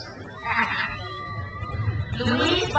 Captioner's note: crowd cheers